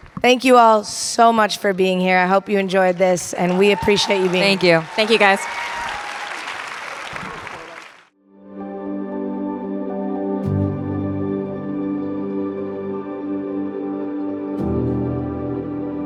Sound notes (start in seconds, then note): 5.7 audience applauding and cheering; 8.9 tinkling music